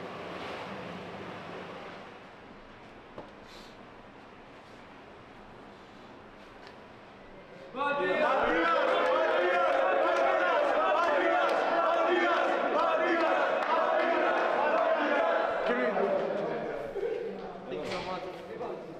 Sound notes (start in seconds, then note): 7.8 fans chanting